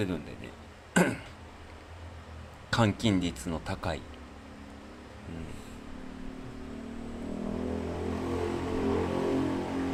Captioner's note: clearing one's throat